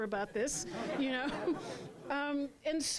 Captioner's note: laughter